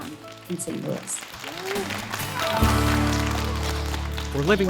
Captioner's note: kids clapping